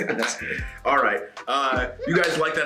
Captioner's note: laugh